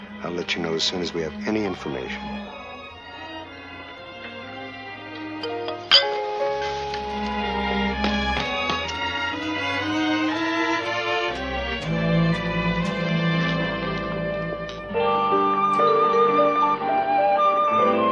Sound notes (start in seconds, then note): 5.4 dishes clinking; 7.9 footsteps receding; 15.5 soft music